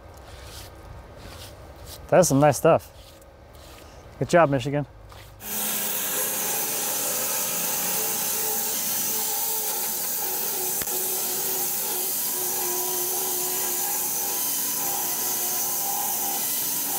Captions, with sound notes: That's some nice stuff. Good job, Michigan. (saw blade humming)